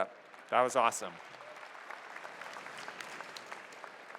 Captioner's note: applause